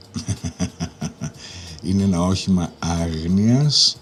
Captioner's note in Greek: γέλια